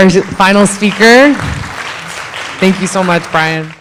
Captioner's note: audience applauding